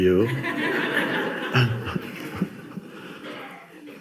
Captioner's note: audience laughs